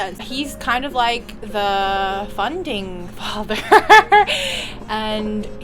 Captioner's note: laughter